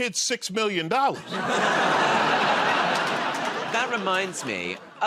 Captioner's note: laughter